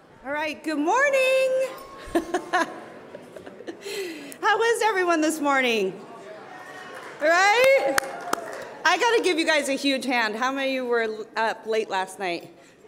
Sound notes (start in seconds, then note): 1.8 laughs; 6.4 audience members yelling and clapping